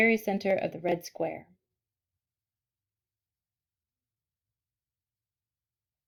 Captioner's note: silence